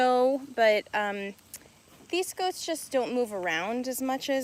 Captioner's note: none